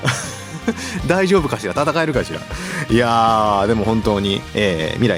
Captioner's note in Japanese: 笑い